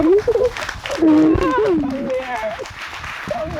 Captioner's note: crying